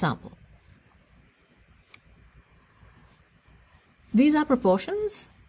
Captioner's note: pause